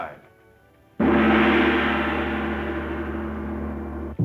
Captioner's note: gong banging